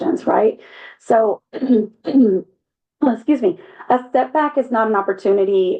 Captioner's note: cough